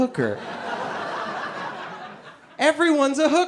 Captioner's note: audience laughing